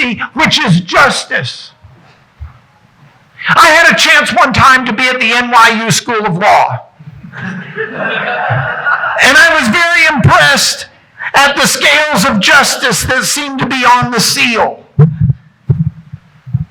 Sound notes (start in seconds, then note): 7.3 audience laughing